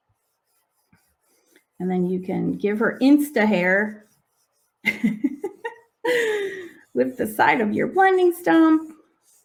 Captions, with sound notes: And then, you can give her Insta hair (laughing) with the side of your blending stump.